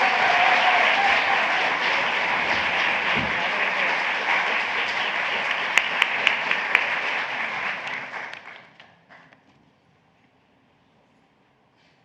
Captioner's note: applause